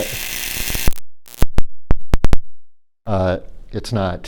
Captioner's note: electrical zapping